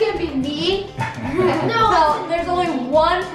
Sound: laughing

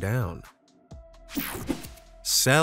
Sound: screen whooshing

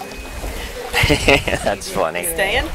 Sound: laughing

